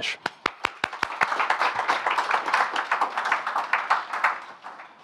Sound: audience applauding

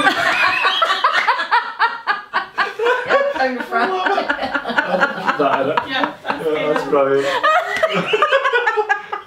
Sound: laughter

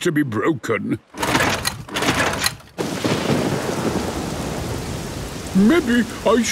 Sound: engine struggling

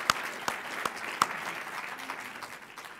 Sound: applause

